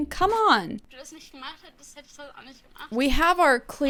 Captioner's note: speaking in German